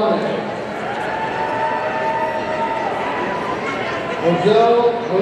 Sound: audience cheering

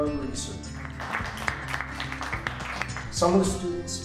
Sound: applause

